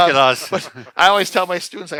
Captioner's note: men laughing